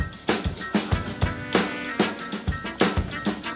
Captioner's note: laughter